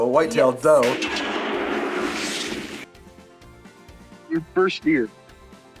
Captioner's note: shotgun fires